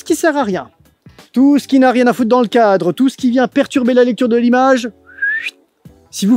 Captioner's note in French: siffle